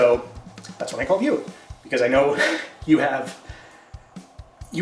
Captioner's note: chuckles